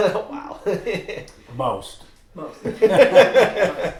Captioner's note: laughing